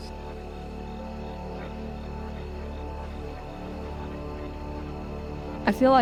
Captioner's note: intense music; insects chirp